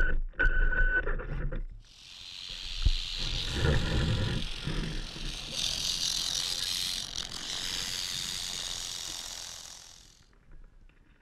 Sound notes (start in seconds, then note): 1.9 rattling